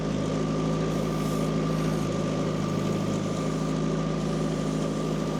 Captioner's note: engine humming continues